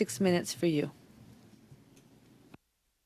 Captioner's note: speaking French